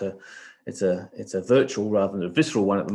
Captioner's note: sniffs